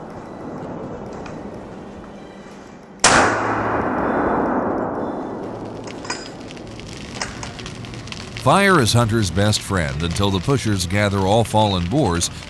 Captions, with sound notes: [gunshot] [fire crackles] Fire is hunter's best friend until the pushers gather all fallen boars